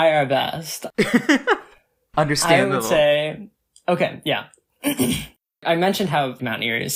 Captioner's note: laughs; clears throat